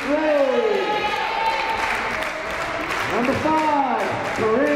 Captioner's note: crowd cheering